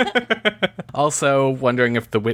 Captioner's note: laughs